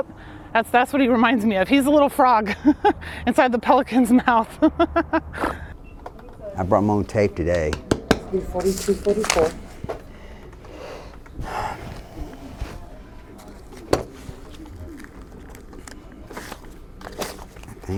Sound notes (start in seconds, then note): 4.1 laughs